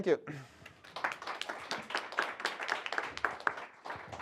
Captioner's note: applause